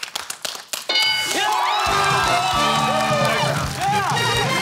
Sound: cheering and applause

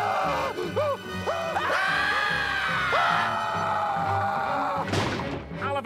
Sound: Mr. Krabs keeps screaming; screaming

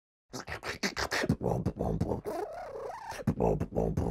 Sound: beatboxes

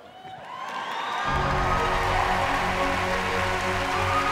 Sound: cheering

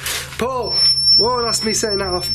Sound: high pitched beeping

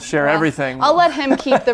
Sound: laughs

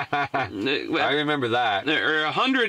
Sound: laughing

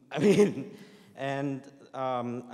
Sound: laughs

